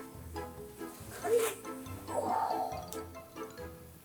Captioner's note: noises appropriate for lifting a 5 tonne wig